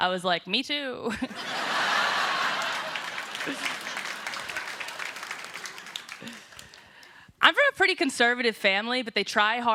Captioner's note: applause